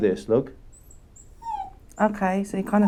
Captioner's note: Ruby whining